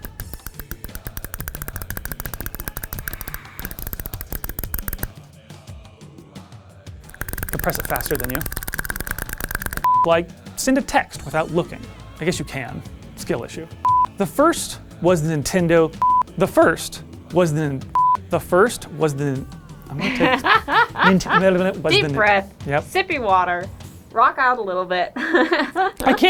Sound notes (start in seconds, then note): 0.0 fast button clicks; 19.9 laughing